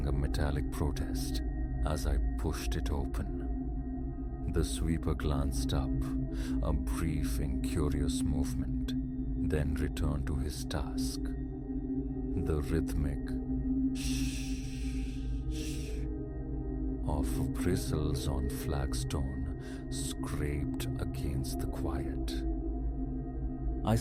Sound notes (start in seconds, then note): 14.0 shh-shh